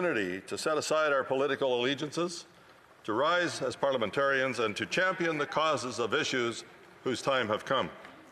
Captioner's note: some Applause